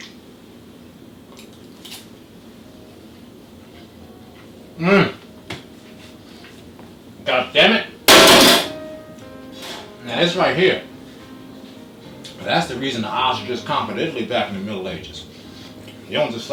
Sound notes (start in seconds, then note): 4.8 foodgasm sounds